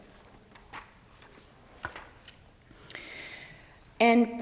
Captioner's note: paper rustles